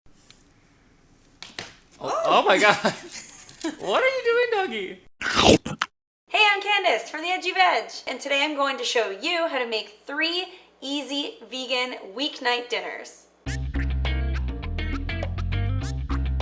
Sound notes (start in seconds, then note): 5.2 slurp; 13.4 funky music